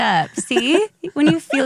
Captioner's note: laughs